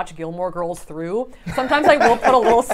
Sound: laughs

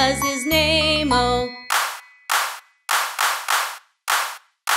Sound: clap

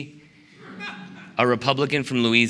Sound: laughter

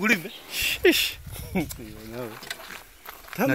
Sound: light laughter

